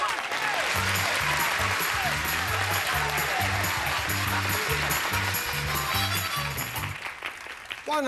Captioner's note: audience applauding